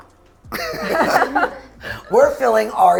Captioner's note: all laugh